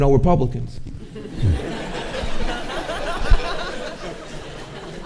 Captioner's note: audience laughing